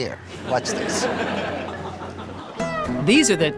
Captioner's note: audience laughing